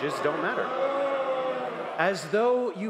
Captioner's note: crowd noise